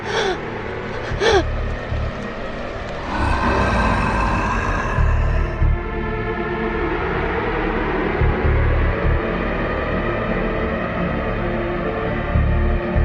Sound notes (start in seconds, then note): 2.9 growling; 7.5 eerie music